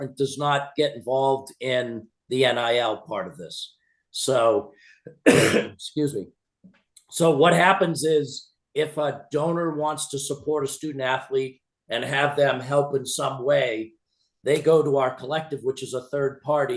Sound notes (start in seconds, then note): 5.1 coughs